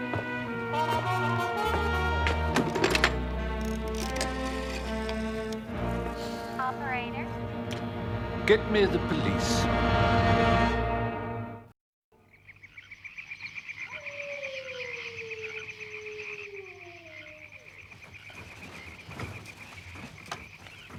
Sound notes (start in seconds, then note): 13.9 baying; 18.1 crickets chirping and frogs croaking